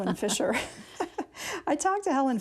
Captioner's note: laughter